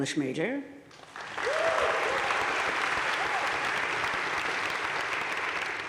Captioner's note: audience cheering and applauding